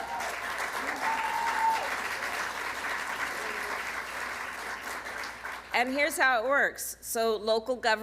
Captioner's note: applause